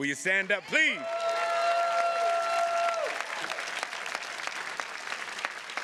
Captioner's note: attendees cheers and claps